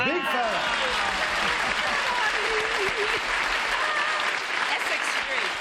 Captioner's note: applause